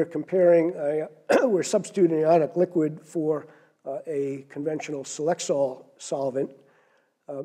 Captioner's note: cough